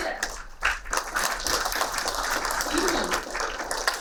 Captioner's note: applauding